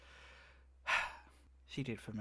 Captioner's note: sighs